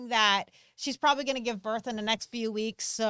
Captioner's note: none